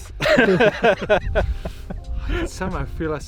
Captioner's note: laughing